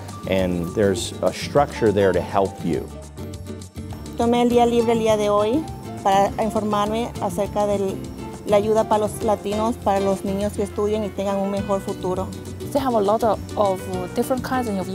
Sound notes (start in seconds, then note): 4.6 speaking Spanish